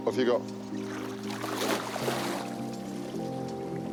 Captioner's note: water splashes; serene music